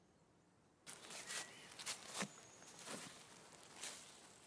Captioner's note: footsteps pattering